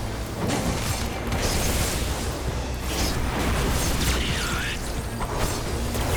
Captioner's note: explosions